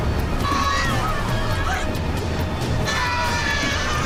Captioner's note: passengers yelling